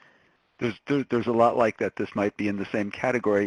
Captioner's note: voiceover